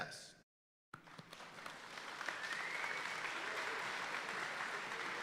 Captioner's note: audience applauding